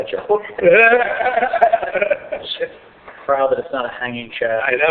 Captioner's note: laughter